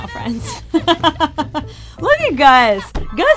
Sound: laughs

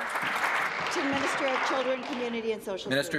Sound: applause

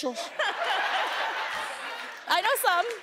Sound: audience laughing

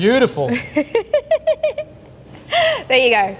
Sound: laughs

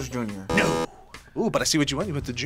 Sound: buzzer; buzzer rings

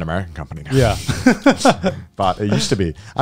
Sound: laughing

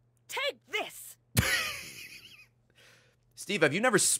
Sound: laughs

